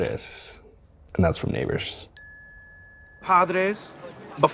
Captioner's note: bell dings